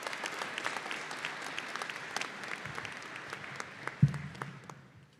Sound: applause

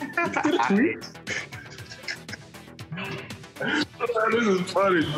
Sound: both laughing

